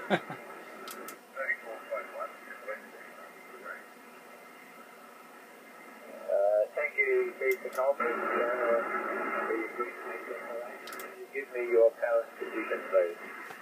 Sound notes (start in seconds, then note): 0.0 man laughs; 2.8 radio plays